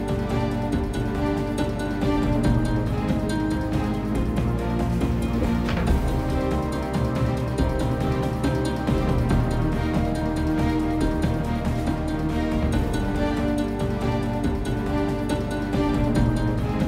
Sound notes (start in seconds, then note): 5.2 cane thudding